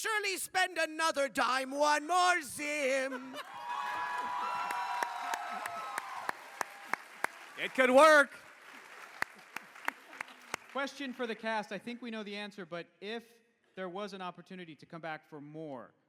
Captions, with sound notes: spend another dime. One more Zim! It could work! [cheers] Question for the cast. I think we know the answer. But if there was an opportunity to come back for more,